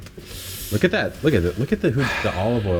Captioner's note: sighs